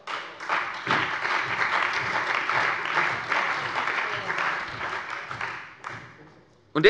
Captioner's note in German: Beifall bei der CDU und dem BÜNDNIS 90/DIE GRÜNEN